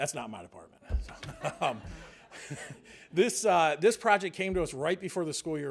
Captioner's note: laughter